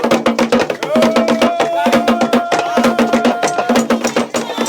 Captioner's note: man yelling; singing in foreign language